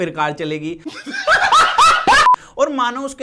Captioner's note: laughs